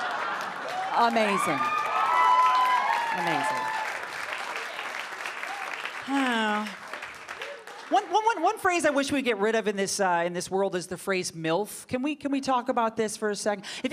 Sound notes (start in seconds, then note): 3.5 audience applauding